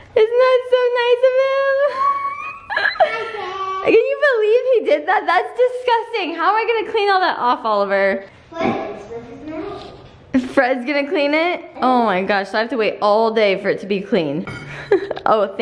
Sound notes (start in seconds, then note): 1.9 squeals